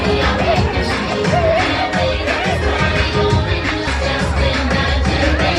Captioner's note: bright lively music; crowd chattering